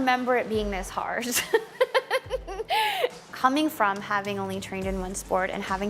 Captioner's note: laughs